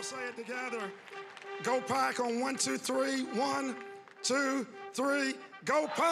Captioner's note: cheering and applause